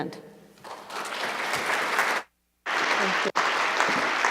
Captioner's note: applause